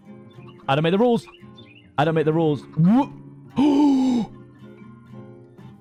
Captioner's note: gasps